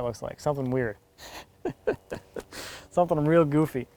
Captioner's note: chuckles